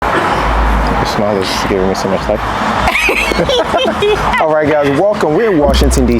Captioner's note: laughing